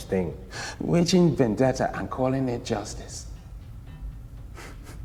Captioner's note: laughs